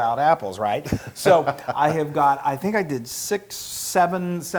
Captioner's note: laugh